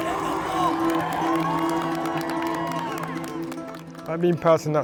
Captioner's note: crowd cheers